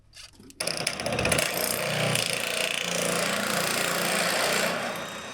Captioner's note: drill drilling